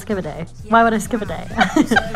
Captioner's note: laughter